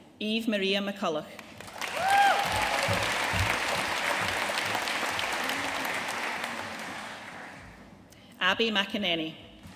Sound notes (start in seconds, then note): 1.6 audience cheering and applauding